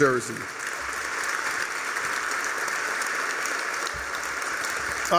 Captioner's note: applause